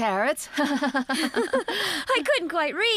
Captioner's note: laughing